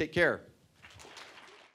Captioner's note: applause